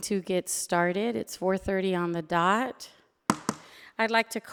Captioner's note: gavel bangs